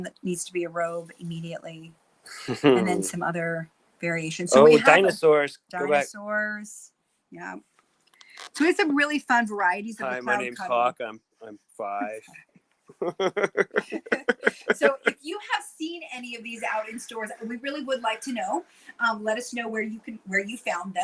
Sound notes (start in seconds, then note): 13.0 laughter